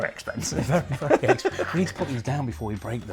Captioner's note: chuckles